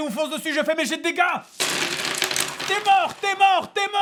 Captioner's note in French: dés roulant sur la table